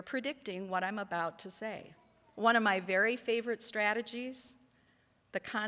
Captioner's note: none